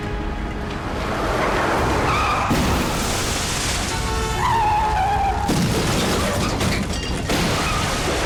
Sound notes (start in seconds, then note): 2.4 smashing; 4.3 tires squealing